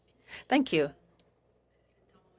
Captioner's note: speaking French